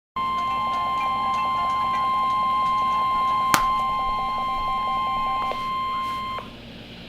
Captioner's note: 1050 Hz Tones